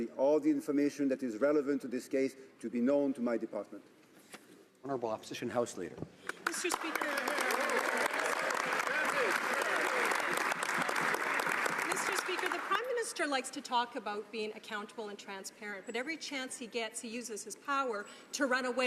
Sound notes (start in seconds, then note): 10.6 some Applause